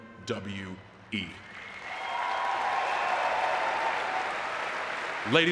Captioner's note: audience cheering and clapping